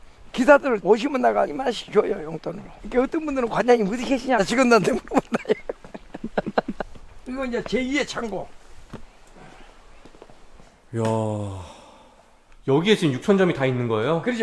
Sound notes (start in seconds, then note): 11.3 gasps